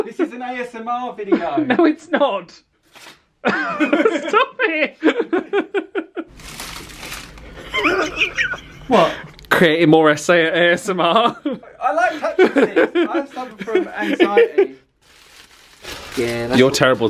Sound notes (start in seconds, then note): 3.5 laughs